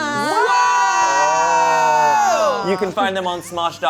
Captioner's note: whoop